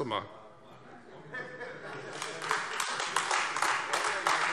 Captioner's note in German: Heiterkeit und Beifall Freie Demokraten und AfD